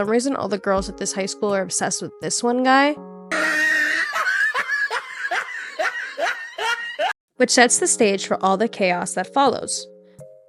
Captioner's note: laughing